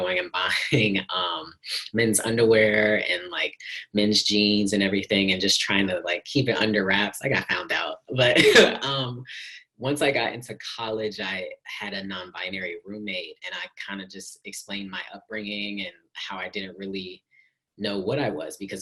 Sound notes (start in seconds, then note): 8.3 chuckles